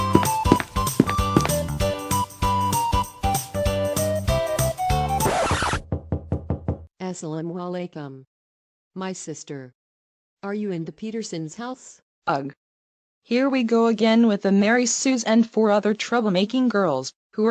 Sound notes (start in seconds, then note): 5.9 knocks The Door